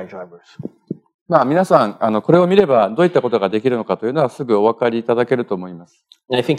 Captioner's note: speaking japanese